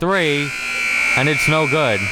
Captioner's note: buzzer buzzing